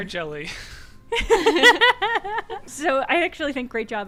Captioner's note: laughter